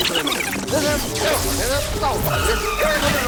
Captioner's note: electricity crackling